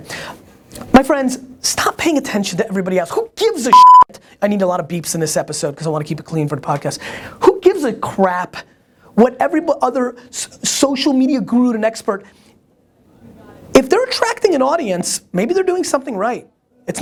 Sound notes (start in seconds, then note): 3.7 beep